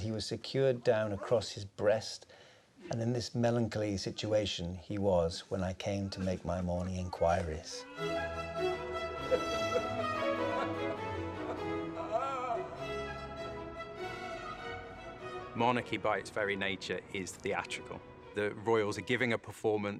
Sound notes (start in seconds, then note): 7.2 groaning and sobbing; 7.2 regal instrumental music